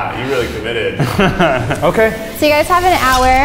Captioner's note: chuckles